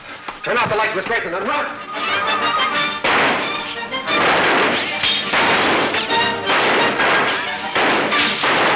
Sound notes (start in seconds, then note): 1.7 dramatic music; 2.2 gunshots firing